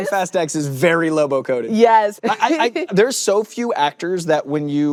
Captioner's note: chuckles